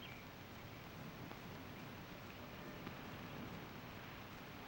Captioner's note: birds chirping